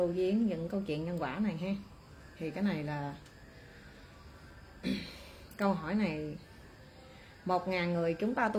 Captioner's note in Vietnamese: hắng giọng